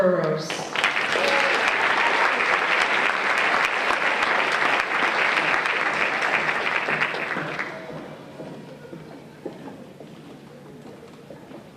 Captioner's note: applause